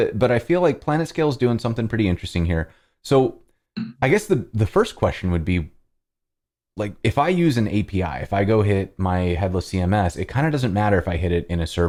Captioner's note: audio cutting out